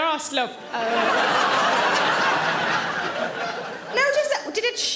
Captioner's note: audience laughing